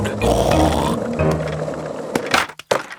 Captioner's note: snorts